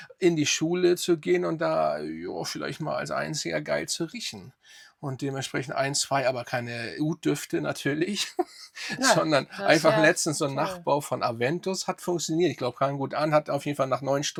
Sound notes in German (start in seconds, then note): 8.1 gelächter